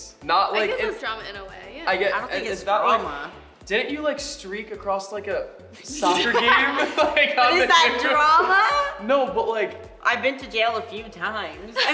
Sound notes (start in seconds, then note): 5.9 laughing